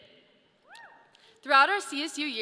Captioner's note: audience member cheers